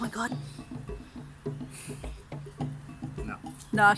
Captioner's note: gasp; sniffles in anticipation